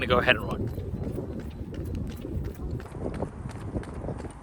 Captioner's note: wind blowing